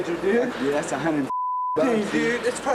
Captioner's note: beep